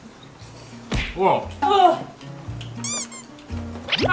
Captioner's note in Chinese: 驚呼